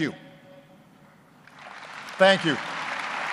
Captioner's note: applause